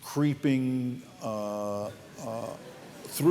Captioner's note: laughter